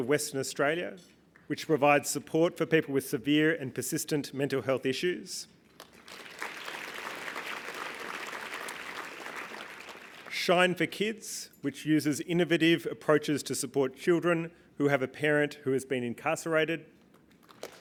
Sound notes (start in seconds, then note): 5.7 applause; 17.4 applause